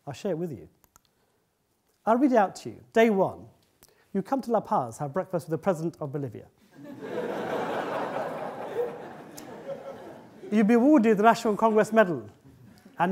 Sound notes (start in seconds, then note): 6.7 audience laughing